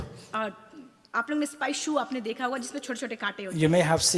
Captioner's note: speaks foreign language